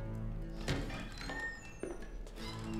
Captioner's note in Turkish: Kapı açılma sesi